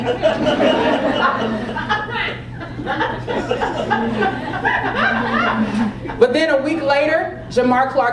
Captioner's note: laugh